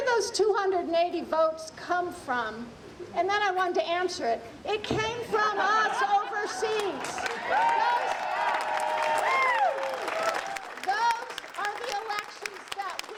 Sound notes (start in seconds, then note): 6.7 audience applauding